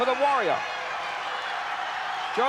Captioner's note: applause